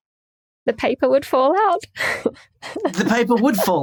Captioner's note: snickers